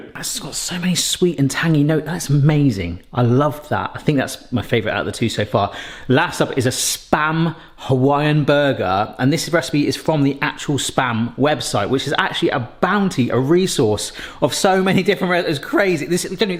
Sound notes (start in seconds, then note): none